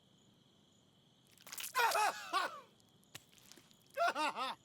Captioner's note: man yelling